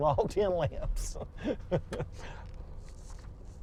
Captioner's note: laughs